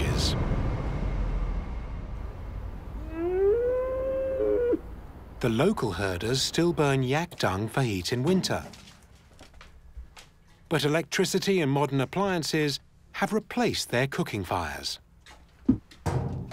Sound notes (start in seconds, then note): 3.0 bleating